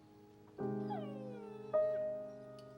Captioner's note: angus whining